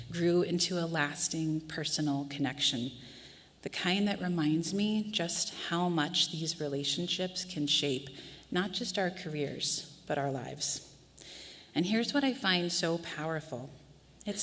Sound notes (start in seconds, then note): none